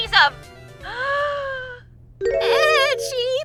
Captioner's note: gasp!